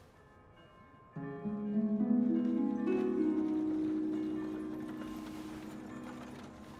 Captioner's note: gentle music; church bells ringing; carriage rattling